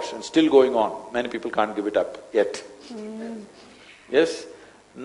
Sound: laughs

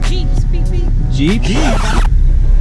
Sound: scratching sound effect

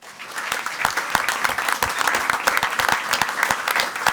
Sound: crowd clapping

